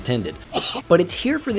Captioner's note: chocking Noise